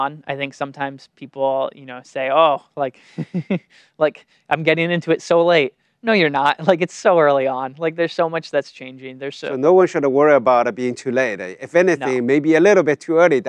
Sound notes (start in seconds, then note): 3.1 laughs